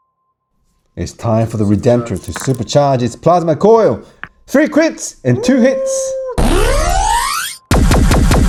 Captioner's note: screaming